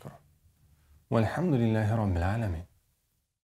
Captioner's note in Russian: Говорит на арабском